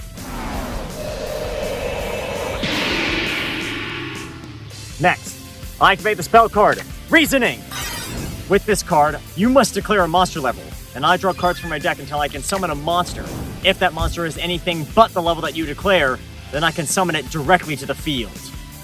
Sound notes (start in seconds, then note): 2.1 metallic roar